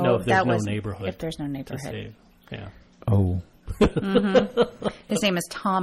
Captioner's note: DJ laughs